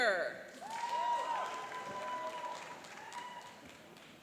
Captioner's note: cheering and applauding